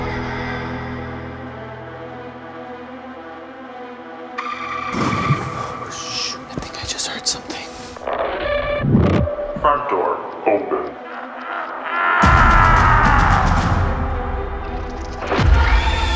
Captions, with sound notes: (screaming) Holy (beep). I think I just heard something. (static) - [ominous voice] Front door, open. (dark laughter)